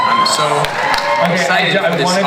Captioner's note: audience cheers